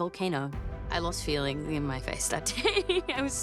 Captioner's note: laughs